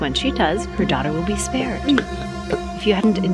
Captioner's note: Morales choking